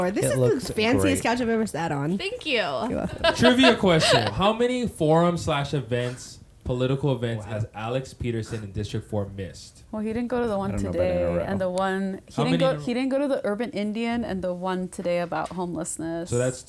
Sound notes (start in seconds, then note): 2.6 laughs